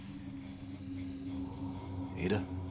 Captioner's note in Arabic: زفير كثيف